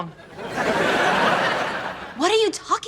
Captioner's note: laughs